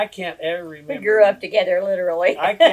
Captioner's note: laughs